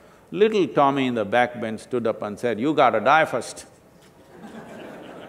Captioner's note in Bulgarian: Смях